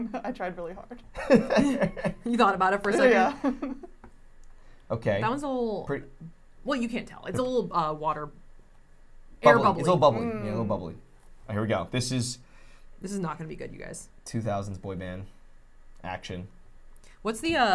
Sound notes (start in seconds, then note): 1.2 chuckles; 1.5 laughs; 3.3 chuckles